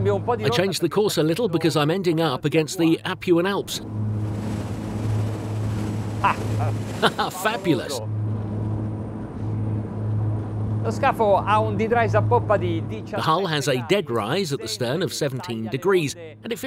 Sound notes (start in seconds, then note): 7.0 laughs; 11.1 speaking in foreign language